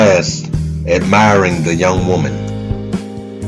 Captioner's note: none